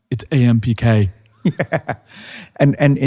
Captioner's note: David laughing